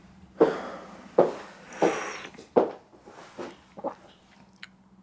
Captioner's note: footsteps tapping